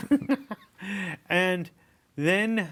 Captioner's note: both laughing